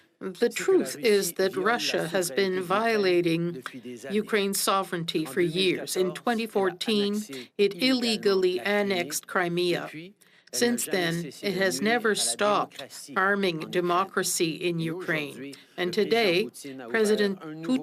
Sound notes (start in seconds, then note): 7.2 speaking French